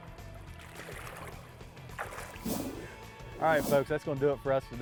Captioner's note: splashing